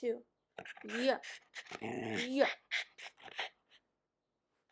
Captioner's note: dog growling; dog noises